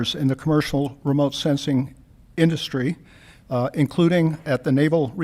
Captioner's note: none